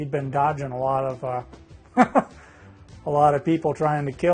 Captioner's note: laughs